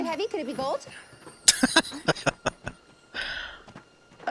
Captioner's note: laughing